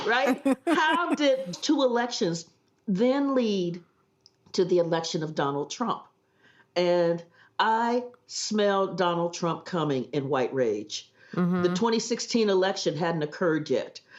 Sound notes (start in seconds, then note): 0.0 laughs